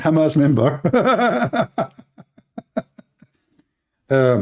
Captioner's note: Ketawa